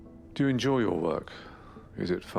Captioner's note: voiceover